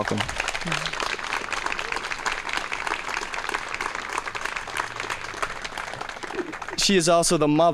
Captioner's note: applause